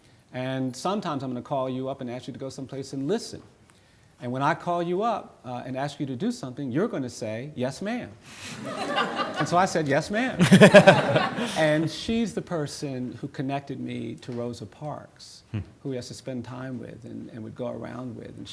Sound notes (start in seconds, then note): 8.3 audience laughing